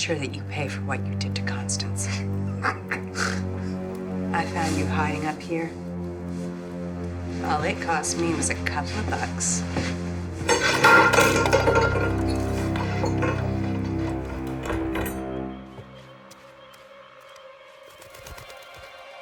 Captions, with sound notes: to make sure that you pay for what you did to Constance. (Alfred laughs) I found you hiding up here, and all it cost me was a couple of bucks. (dishes clanging) (suspenseful music)